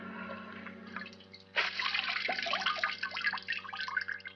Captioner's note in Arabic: رذاذ الماء